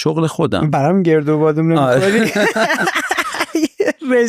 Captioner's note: laughs